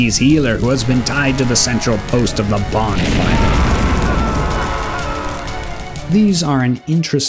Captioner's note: fireball & screams intensify